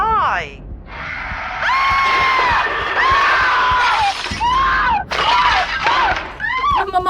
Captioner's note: Dark Entity growling; mother screaming